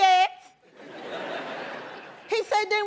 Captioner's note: laughter